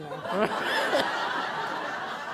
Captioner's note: laughter